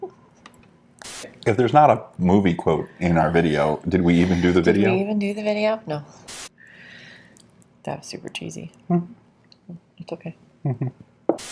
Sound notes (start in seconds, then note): 0.6 laughing